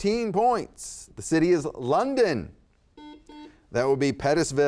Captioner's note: buzzer beeps